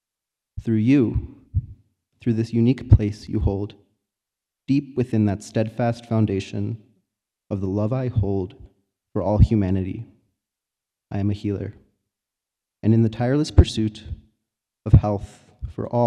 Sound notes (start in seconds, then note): none